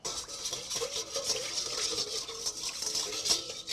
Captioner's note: scraping